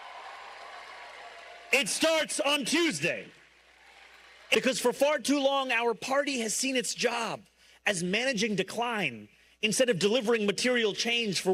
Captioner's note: cheers and applause